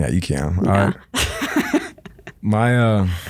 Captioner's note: laughing